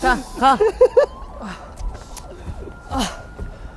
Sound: out of breath

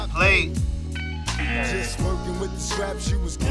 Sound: buzzer buzzing

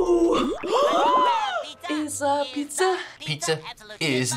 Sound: gasps

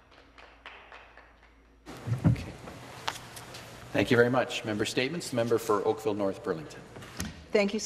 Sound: some Applause

